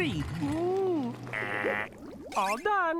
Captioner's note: imitating alarm